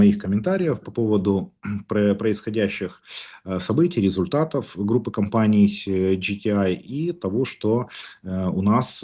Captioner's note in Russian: откашливается